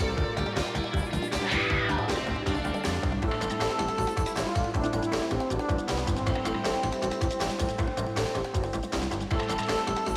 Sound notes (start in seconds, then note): 1.3 wildcat growling